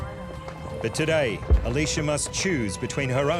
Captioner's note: bombs whistling and exploding